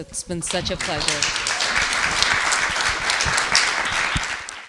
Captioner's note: attendees clapping